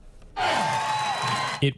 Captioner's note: chanting